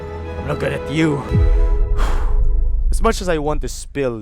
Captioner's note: sharp inhale, exhale